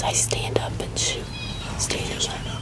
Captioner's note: whispering